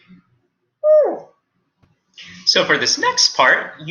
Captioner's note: Wolfie squeaking